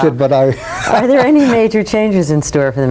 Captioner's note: laughs